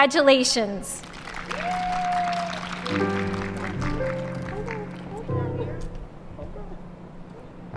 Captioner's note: applause, cheers and ♬♬ piano ♬♬